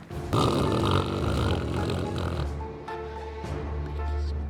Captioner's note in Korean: 격하게 코 고는 소리